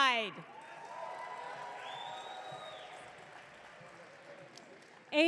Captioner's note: audience cheering